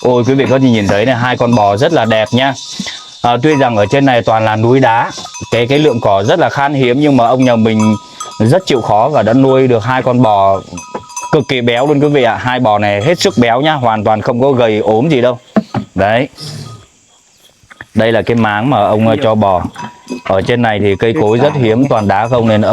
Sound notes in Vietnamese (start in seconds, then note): 16.3 khịt mũi